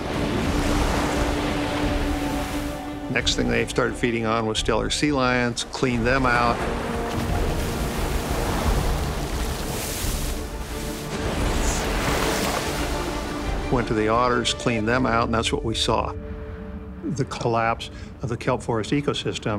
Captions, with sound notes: (water crashing) Next thing they started feeding on were stellar sea lions, cleaned them out. (water crashing) (water crashing) Went to the otters, cleaned them out and that's what we saw. The collapse of the kelp forest ecosystem